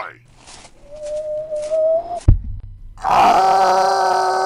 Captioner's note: low-pitched; whoosh; low-pitched